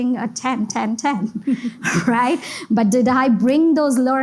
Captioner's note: giggles